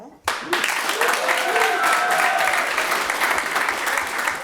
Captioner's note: audience applauds